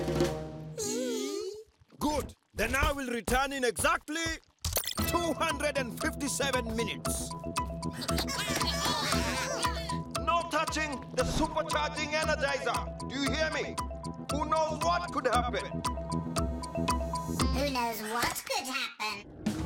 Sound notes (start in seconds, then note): 7.1 cheering; 19.4 upbeat music